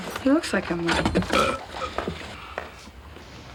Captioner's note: burp